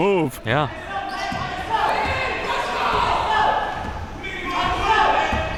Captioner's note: coaches yelling